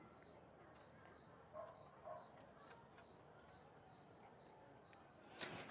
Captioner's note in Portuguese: grilos